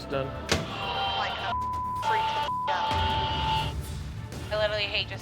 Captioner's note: beep